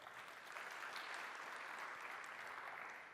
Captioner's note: applause